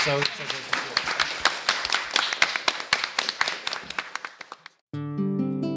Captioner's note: applause drowns out speaking; acoustic guitar music